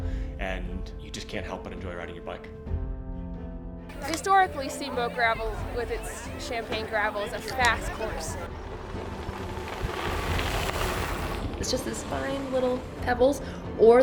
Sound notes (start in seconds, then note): 8.1 bikes shredding